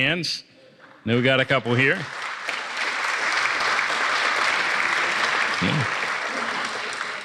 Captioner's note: applause